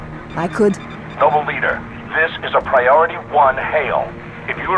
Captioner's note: radio